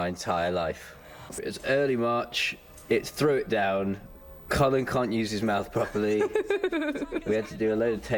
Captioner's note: laughs